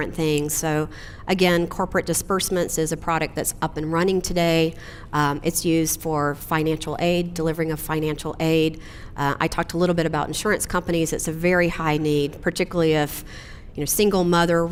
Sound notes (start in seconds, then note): none